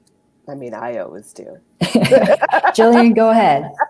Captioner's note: giggles